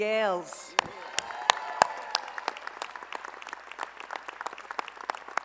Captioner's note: applause